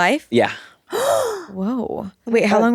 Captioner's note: gasping